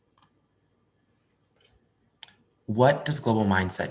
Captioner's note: mouse clicking